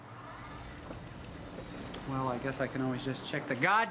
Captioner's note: car engine humming